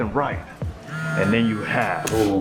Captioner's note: phone buzzes